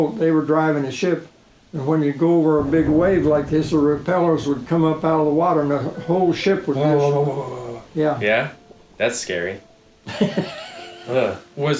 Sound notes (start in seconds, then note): 7.1 imitating shuddering of ship; 10.0 chuckling